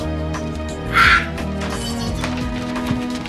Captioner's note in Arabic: صرخات